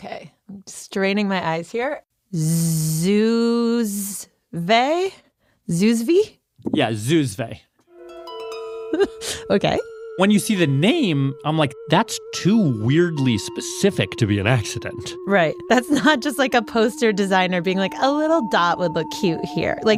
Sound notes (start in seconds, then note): 9.0 laughs